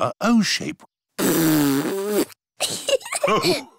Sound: blows raspberry; laughter

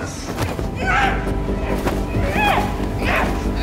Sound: grunting

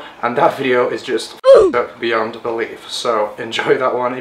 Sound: ooh! Effect

